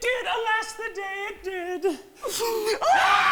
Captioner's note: sobs